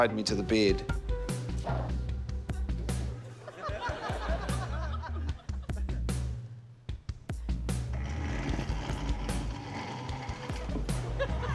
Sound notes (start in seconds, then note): 3.1 laughter; 7.6 scraping